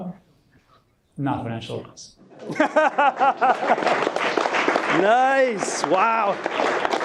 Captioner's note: attendees laughing and clapping